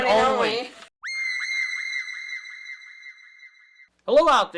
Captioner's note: high pitched shriek